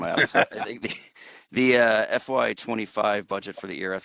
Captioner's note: laugh